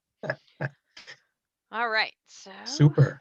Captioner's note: laughing